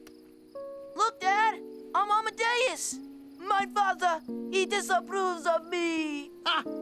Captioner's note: italian accent